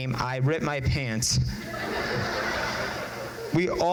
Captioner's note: crowd laughs